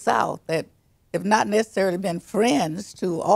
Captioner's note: none